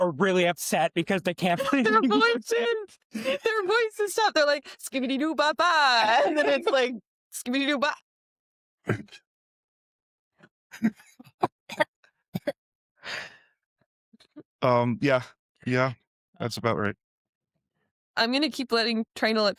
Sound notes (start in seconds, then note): 13.3 coughs